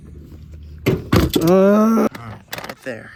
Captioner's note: stress noises